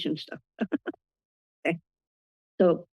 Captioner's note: laughter